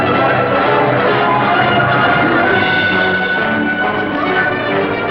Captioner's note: shouting